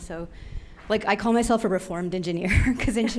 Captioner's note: laughs